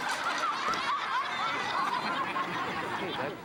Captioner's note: audience laughs